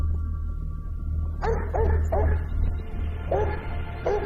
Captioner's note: dog barking